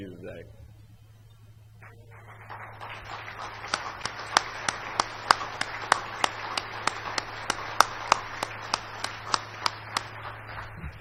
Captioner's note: applause